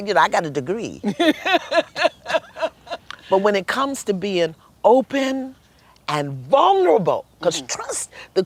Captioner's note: laughter